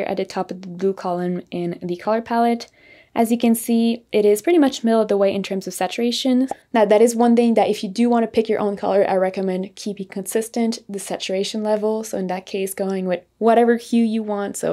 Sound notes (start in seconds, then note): none